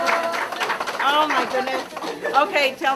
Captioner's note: laughter